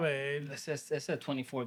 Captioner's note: speaking Spanish